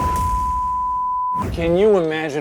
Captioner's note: screen beeping